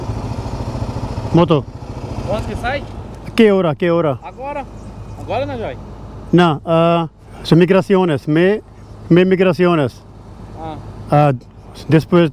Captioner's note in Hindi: स्पेनिश में बोलना